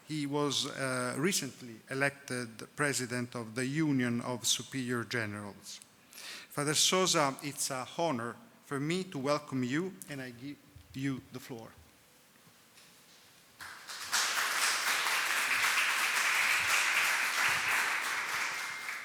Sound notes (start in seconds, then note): 13.6 attendees applauding